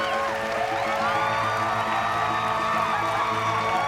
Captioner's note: whooping